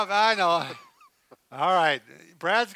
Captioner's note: laughing